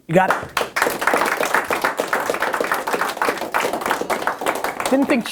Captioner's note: applause